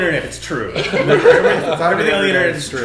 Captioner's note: all laughing